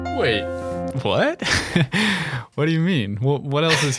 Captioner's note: laughing